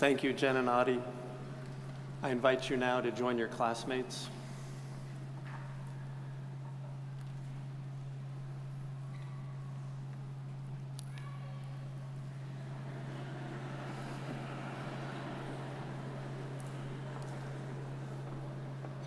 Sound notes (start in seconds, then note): 12.4 audience chuckles